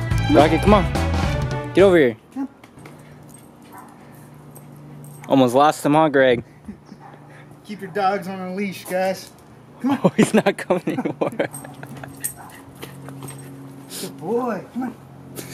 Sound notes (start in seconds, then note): 9.8 laughing